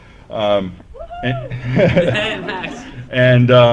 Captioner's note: cheering